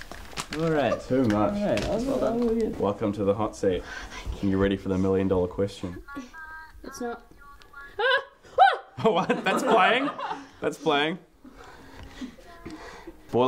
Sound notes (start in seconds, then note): 0.0 headphones clatter; 4.0 whispering; 8.0 laughter from the couch; 8.6 screams